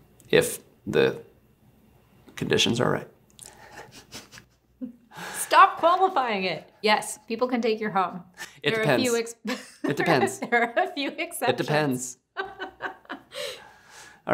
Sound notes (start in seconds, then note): 3.5 hosts snickering; 9.4 giggling; 12.3 laughing